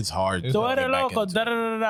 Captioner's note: speaking Spanish